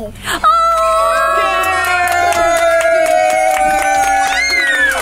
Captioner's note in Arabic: الجميع يهتفون